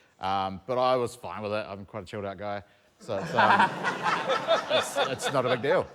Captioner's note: laughter